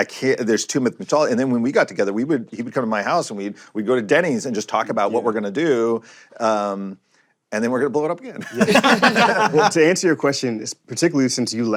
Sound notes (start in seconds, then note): 8.4 laughter